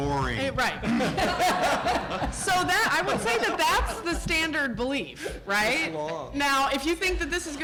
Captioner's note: laughter